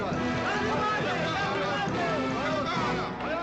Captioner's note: speaking comanche